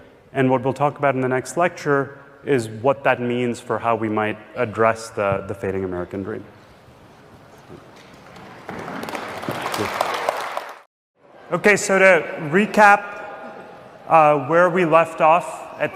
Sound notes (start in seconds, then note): 8.5 students applauding